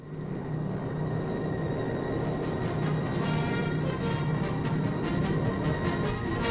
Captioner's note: engines rumbling; rousing orchestral music